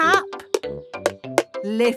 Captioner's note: taping